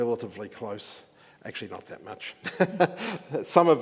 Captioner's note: chuckles